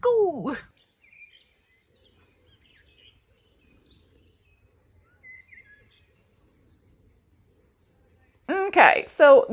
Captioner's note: quiet nature sounds